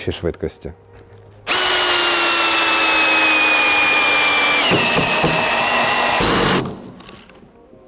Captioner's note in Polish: dźwięk wkrętarki